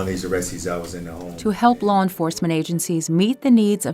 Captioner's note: voiceover